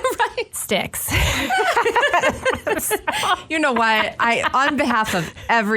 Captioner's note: laughs